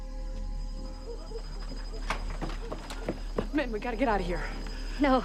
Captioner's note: dogs Barking In Distance